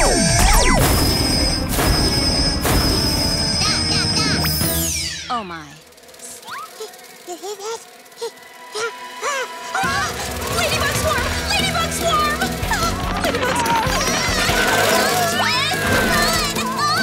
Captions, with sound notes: [pow-pow-pow] Yeah, yeah, yeah! Oh, my. [buzzing] You hear that? Ah. Ah! [gasping] Ladybug swarm! Ladybug swarm! Ah! Ladybugs. Ladybugs! Ah! Run, Twist! Run!